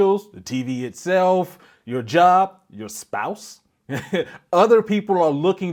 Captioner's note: laughing